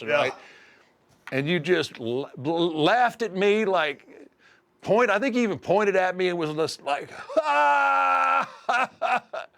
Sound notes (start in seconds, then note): 7.3 laugh